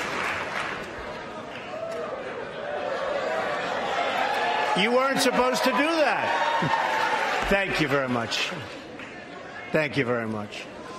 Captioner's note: applause